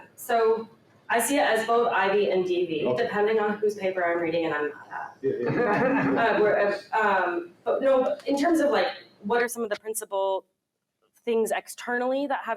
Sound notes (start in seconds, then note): 4.9 mumbles; 5.3 laughter